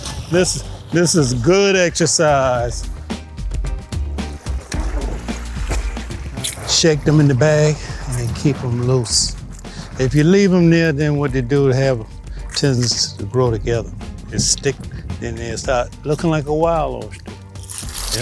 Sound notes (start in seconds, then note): 5.1 water splashing